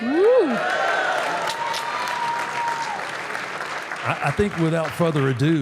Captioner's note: audience applauding; audience cheering